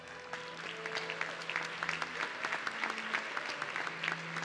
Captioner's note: audience clapping